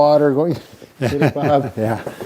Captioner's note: men chuckling